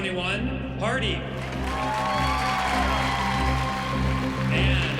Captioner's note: cheering and applause